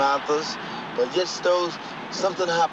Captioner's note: car humming